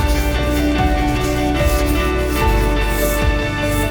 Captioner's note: scrubbing